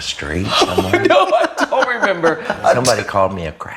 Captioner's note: laughs